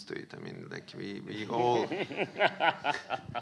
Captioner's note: audience laughing